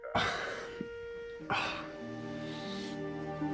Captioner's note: groaning